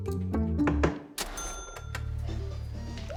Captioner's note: video game beeping